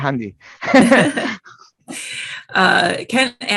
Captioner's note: laughing